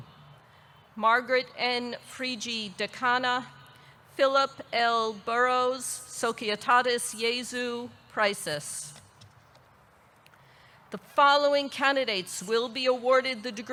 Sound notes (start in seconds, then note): 2.4 speaks in foreign language